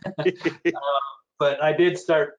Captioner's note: laughs